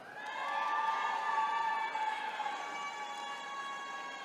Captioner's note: attendees cheering